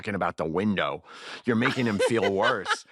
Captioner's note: laughter